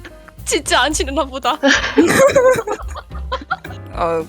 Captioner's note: laugh